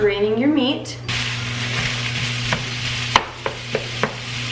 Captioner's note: pan sizzling